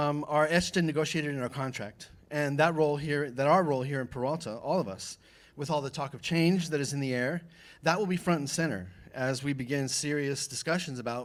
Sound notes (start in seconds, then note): none